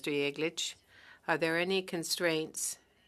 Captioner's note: speaking French